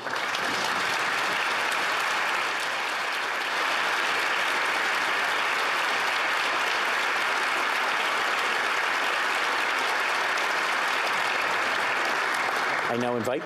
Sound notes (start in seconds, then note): 1.9 speaking Alternate Language; 3.3 applause